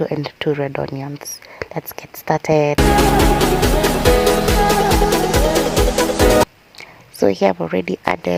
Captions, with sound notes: Steam the meat on low heat until its water is vaporized. Add onions to your heated oil, cook until transluscent, add 2 knorr beef cubes later on add cut green(bell) pepper.